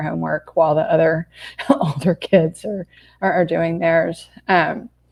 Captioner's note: laughs